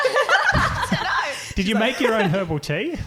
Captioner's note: laughing